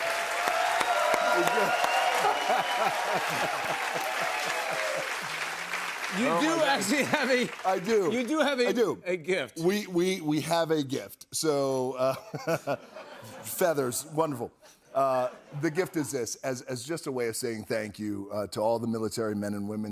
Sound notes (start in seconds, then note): 0.3 cheers and applause; 12.0 laughter